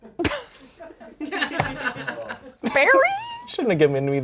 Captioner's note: laughs